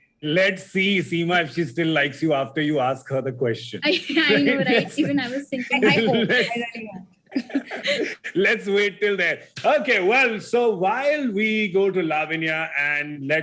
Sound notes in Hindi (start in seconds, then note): 7.3 गौरव हँसते हुए